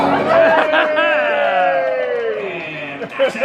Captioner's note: audience cheers